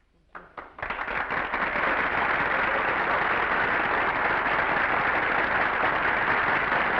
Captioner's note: audience applauding; audience cheering